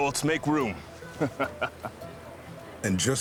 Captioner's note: chuckles